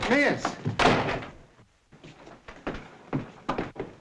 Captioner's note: door slams